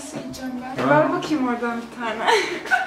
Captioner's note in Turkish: gülüyor